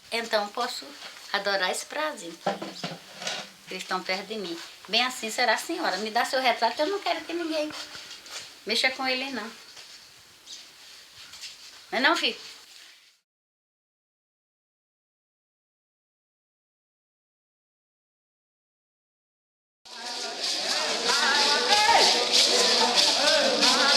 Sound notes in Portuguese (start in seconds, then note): 14.2 Silêncio; 20.0 Música , vozes, chocalhos